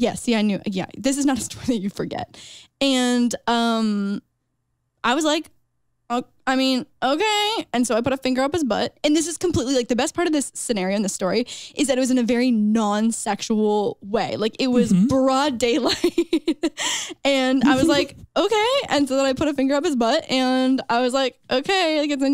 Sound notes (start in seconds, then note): 17.6 chuckles